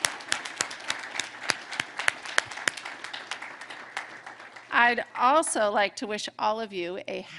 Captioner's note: applause